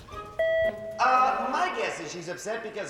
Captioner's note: scoffs; beep